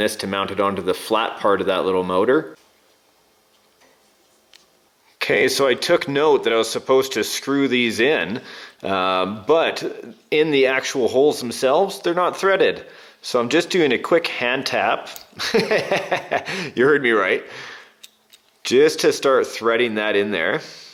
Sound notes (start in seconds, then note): 15.4 laughs